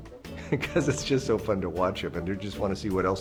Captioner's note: chuckles